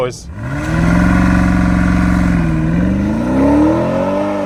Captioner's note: car engine revving